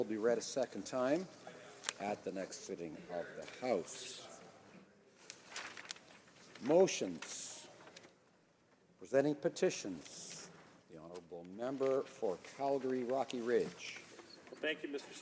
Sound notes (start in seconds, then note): 1.8 speaking French